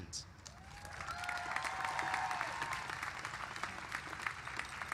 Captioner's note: applause